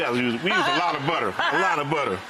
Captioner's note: laughing